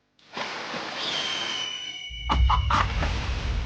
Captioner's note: hawk screeches; water sploshes; dramatic inspirational music; chicken clucks